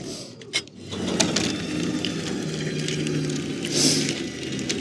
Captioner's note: trailer whirring